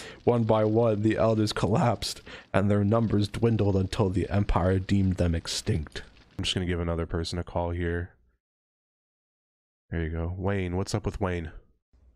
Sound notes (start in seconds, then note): none